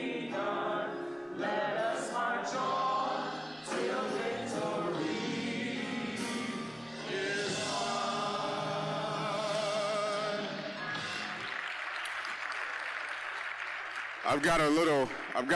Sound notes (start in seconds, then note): 10.3 applause